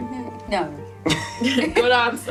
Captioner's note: laughs